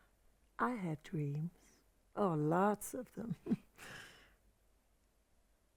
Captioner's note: chuckles